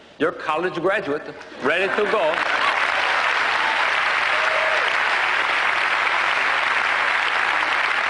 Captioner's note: applause